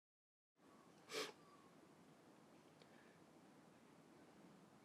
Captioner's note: Kimberly sniffling